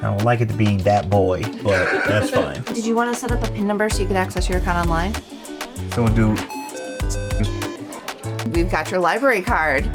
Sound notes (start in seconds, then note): 7.2 machine beeping